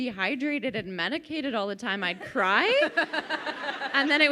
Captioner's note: crowd laughing